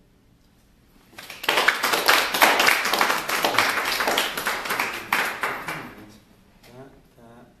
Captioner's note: applause